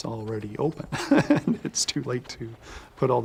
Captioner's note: laughs